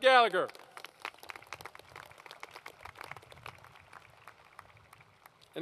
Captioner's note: applause